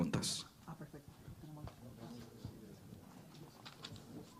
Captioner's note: people chatter